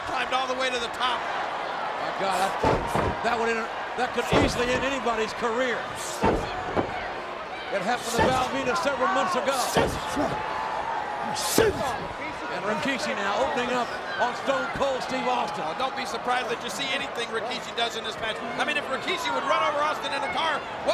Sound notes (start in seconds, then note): 9.6 foot thuds; 10.0 Austin grunts